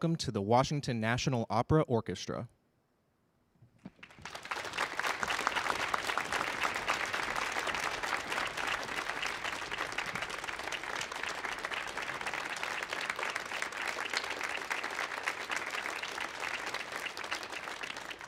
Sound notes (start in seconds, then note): 5.3 audience applause